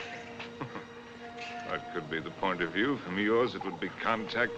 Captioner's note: chuckles